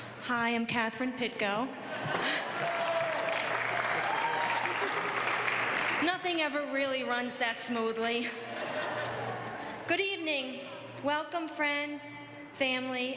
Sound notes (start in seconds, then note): 2.5 applause; 8.6 laugh